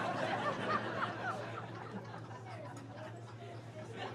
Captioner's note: laughing